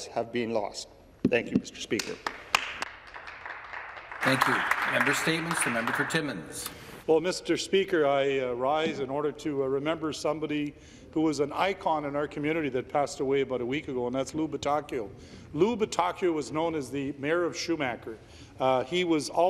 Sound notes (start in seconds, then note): 6.5 some Applause